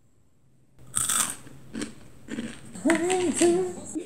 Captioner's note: crunch crunch